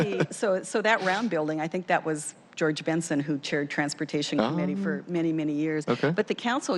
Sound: laughter

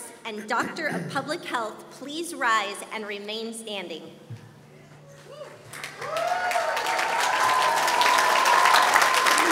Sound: applause

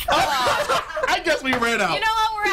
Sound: laughter

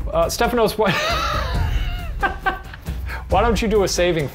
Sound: laughs

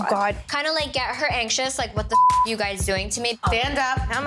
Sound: beep

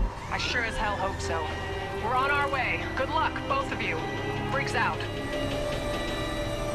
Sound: radio

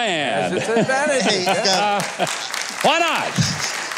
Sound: audience applauds

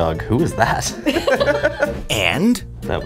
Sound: laughter

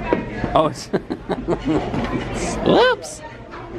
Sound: laughs

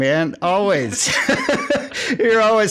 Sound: laughs

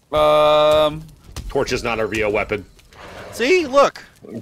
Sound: none

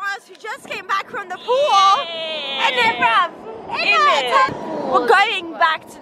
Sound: dronken praat

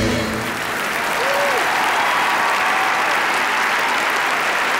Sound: audience applauds

